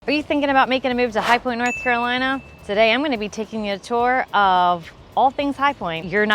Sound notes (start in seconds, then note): 1.6 bell chimes